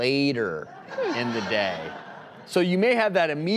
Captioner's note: audience Laughs